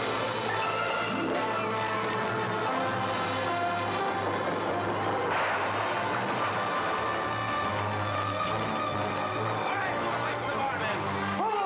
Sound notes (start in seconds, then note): 0.0 dramatic music; 0.0 fire crackling; 5.4 structure crashing down; 7.2 dramatic music